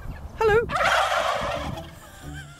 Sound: gobbling

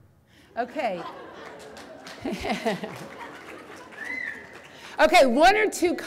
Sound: audience claps and laughs

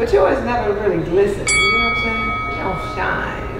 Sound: Boxing bell sound

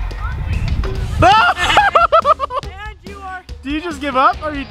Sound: laughs

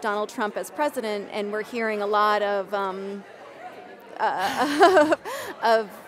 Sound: laughs

